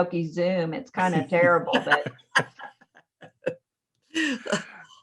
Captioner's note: laughs